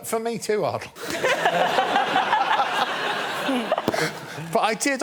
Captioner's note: laughter